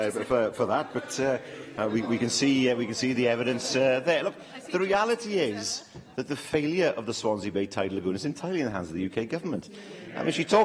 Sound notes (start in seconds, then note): 4.1 laughter